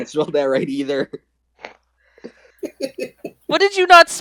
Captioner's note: chuckle; chuckles